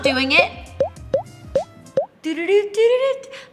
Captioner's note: popping